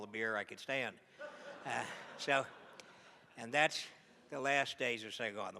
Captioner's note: laughs